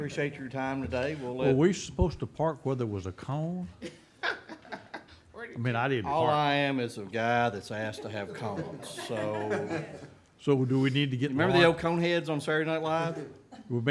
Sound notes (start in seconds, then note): 3.8 woman laughing